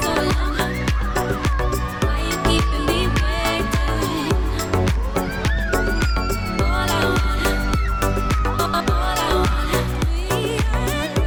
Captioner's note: screaming